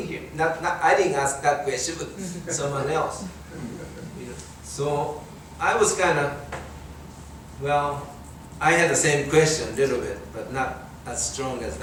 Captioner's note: audience chuckling